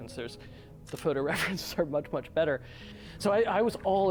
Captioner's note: laughing